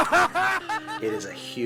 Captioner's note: laughing